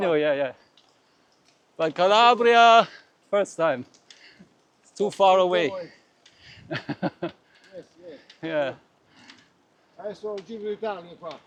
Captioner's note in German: gelächter